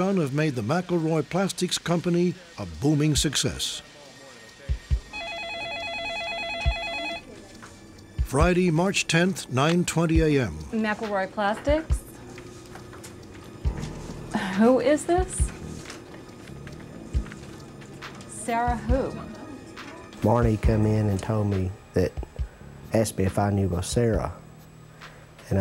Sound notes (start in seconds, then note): 5.0 telephone ringing